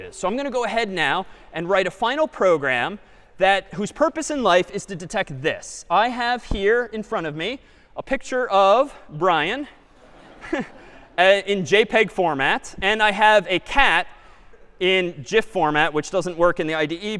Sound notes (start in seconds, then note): 9.8 laughter